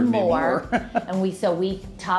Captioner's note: chuckling